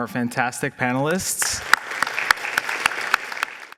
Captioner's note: applause